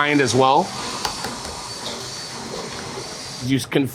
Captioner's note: blender whirring